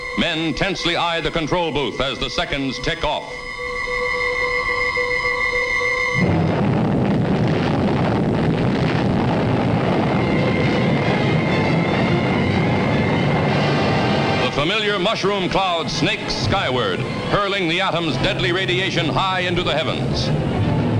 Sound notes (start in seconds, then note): 6.0 bomb blasting; 10.5 dramatic music